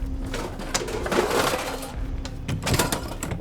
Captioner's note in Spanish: la puerta se abre